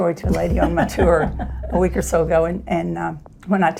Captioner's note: laughs